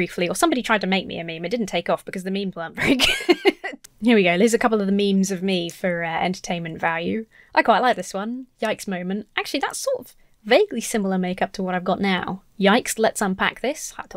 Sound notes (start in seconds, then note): 2.8 laughs